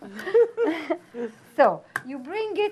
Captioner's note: both chuckle